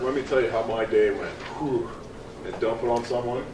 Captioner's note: sighs